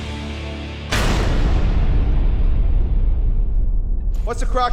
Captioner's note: logo bangs